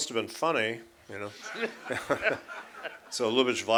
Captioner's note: laughter